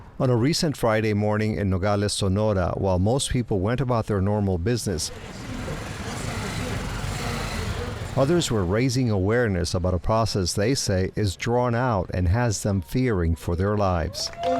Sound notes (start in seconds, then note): 5.2 noisy traffic